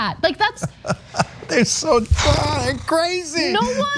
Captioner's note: laugh